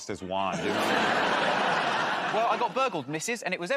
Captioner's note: laughter